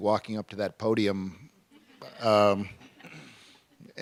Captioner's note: laughter